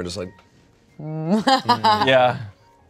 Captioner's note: laughs